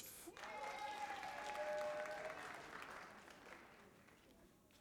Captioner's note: audience applauding